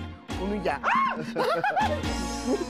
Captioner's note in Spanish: Grito; Risas